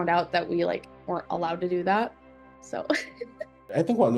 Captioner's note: laughs